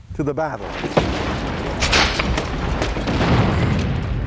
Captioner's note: guns firing